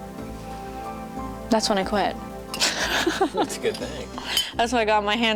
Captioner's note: laughs